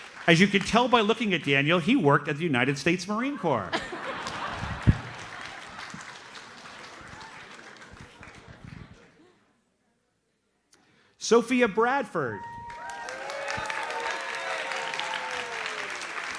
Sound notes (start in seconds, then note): 3.2 audience laughs; 12.4 audience cheers and applauds